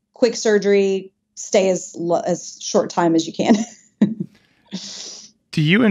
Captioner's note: chuckles